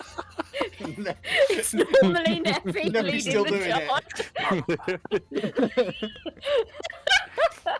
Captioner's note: all laugh